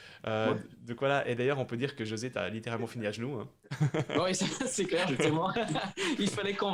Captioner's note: laughs